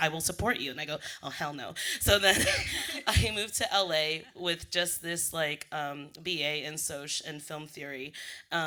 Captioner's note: laughs